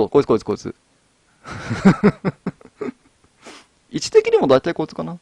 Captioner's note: laughs